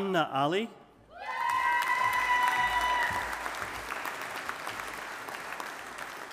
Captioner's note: audience applauding